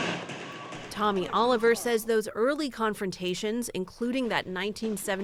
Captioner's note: voice-over